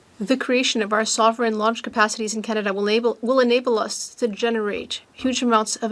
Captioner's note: speaking French